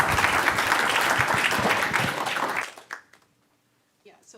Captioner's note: applause